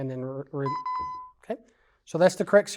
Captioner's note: beeping